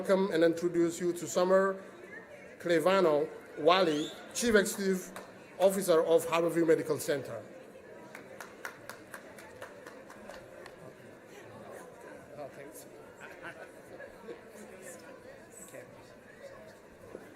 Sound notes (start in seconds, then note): 8.0 applause